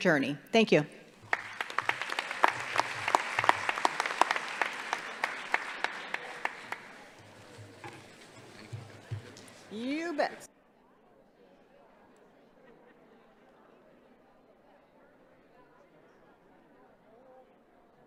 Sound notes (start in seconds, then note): 6.4 applause